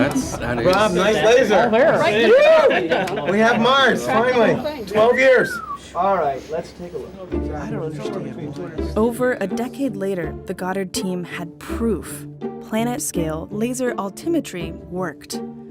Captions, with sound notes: Rob, nice laser! We have Mars finally! 12 years! All right, let's take a look. [room chatter] Over a decade later the Goddard team had proof: planet-scale laser altimetry worked.